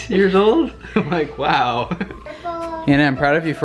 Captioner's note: laughs